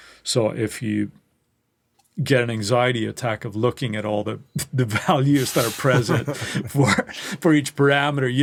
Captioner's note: laughs